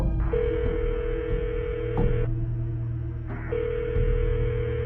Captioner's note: phone trilling